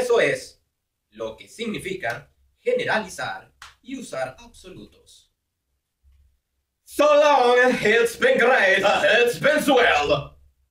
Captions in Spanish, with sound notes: Y eso es lo que significa, generalizar y usar absolutos. solo úber heinz be great heinz been well (habla Alemán)